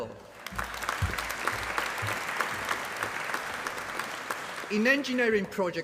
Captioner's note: applause